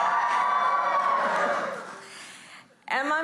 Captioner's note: applause